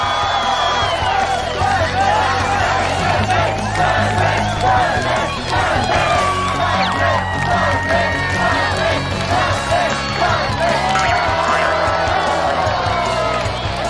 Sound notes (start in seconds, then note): 1.2 chanting his name